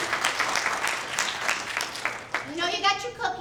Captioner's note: applause